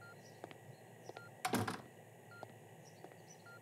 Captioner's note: Door closes